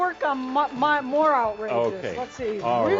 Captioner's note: some applause